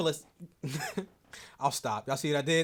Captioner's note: laughs